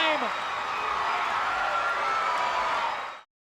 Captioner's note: crowd cheers